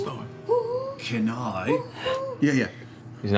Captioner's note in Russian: ухает